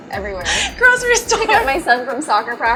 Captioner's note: laughs